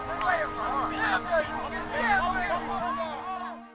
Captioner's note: team shouting